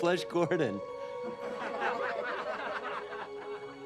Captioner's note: laughter